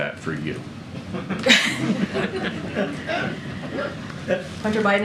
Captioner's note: laughter